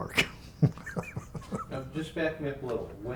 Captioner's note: laughs